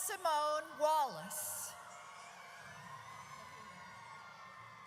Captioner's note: audience cheers